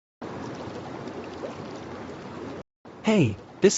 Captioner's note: water bubbling